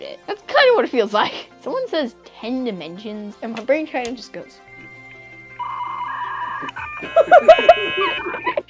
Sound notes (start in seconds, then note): 5.0 computer dial-up trying to connect tones; 6.8 laughter; 7.1 computer dial-up trying to connect tones